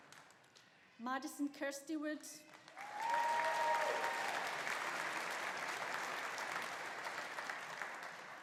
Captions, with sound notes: Madison Kirsty Wood. (AUDIENCE APPLAUDING) (AUDIENCE CHEERING)